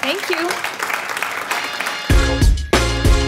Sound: audience applauds; upbeat music

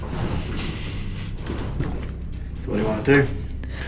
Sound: ominous instrumental music; cage rumbling

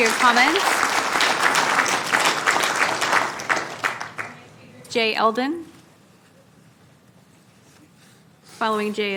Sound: applause

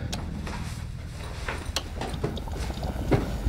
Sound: shaky breathing; rummaging; burbling

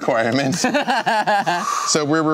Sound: laughing

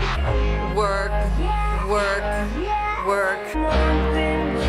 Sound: flatly

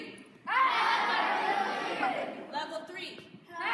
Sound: students shouting and laughing

